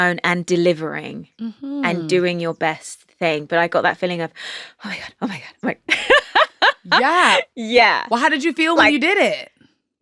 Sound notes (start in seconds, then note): 5.9 laughing